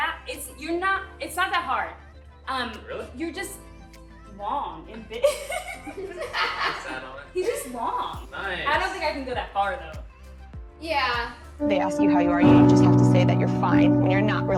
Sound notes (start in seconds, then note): 5.0 laughing